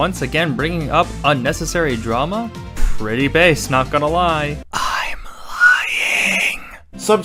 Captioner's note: whispering